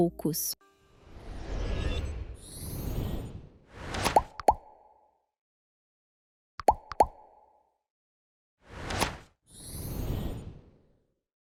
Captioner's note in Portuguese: efeitos sonoros